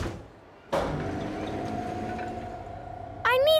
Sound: lift moving

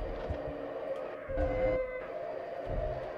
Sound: none

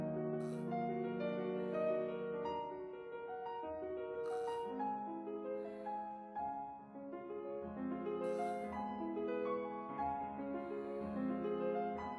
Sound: sighs

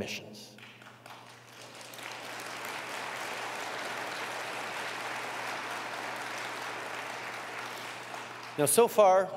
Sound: applause

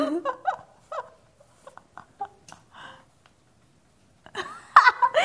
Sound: laughs

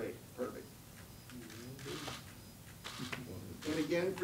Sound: cameras shuttering

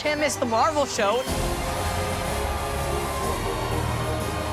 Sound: cheering

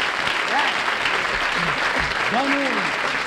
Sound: applause

